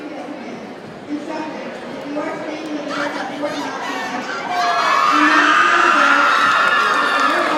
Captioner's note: audience cheers